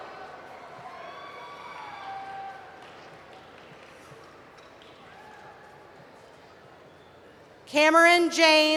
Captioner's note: cheering